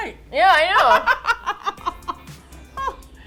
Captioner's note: laughs